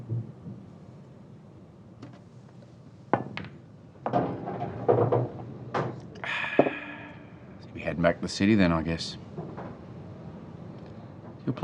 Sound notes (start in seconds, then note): 4.0 pool balls clattering; 6.2 sighs